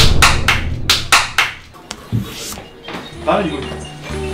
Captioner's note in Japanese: 拍手をパチパチ